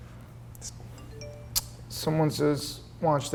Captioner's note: computer beeps